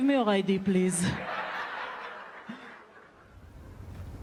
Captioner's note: crowd laughing